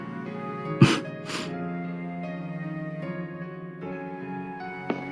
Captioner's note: laugh